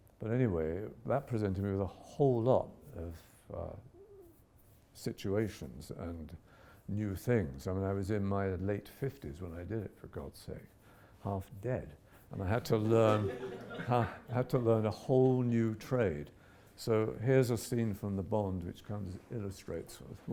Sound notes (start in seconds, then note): 12.8 audience laughs